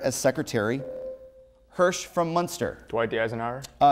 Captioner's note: buzzer